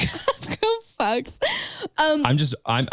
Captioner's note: laughs